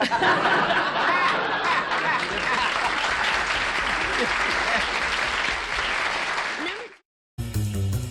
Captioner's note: laughter, applause